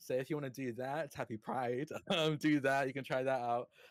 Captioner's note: chuckles